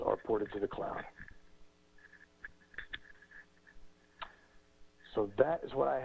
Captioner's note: pause